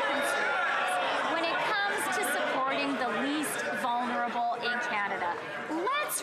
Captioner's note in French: applaudissements; voix de l'interprète